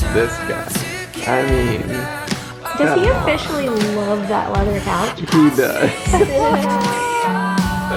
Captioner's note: both laugh; outro Music